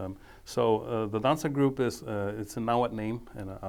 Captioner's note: speaking foreign language